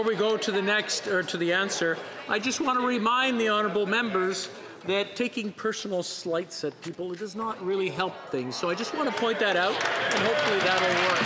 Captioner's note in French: voix de l'interprète